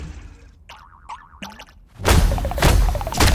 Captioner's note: Gloink boinking softly